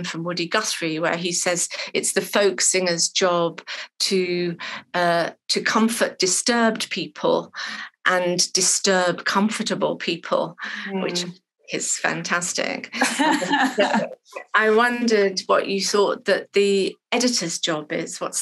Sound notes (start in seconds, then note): 12.9 laughing